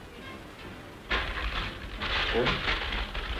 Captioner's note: paper Noise